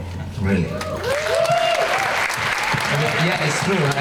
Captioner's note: crowd applause